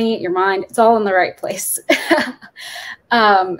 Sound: chuckles

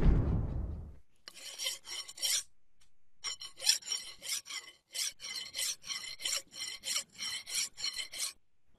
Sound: filing noise

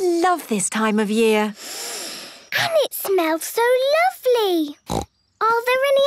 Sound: Peppa inhaling deeply; snorting

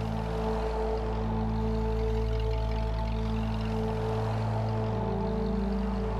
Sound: car engine rumbling

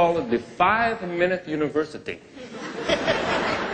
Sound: laughter

